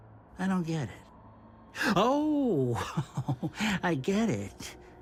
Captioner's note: chuckling